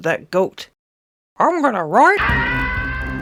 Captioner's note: crash